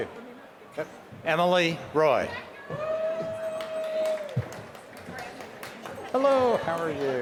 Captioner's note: applause